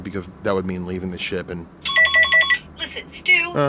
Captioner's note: comms ringing